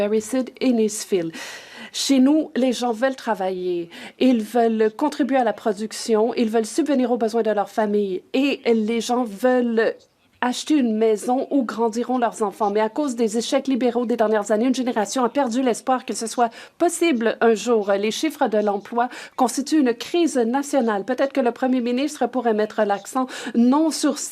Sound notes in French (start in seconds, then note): 7.3 voix de l'interprète